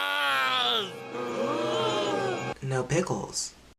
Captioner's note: crowd gasp